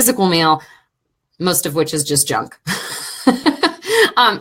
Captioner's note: laughing